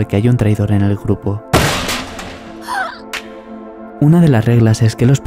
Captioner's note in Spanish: golpe a la mesa